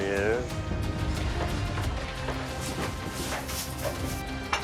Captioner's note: dramatic music; objects clattering